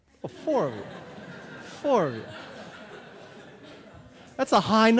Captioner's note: audience laughing